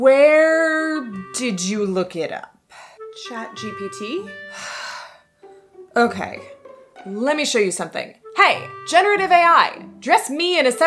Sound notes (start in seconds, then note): 4.6 sigh